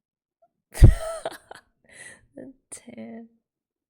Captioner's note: laughs